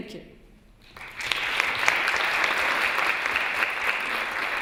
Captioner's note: applause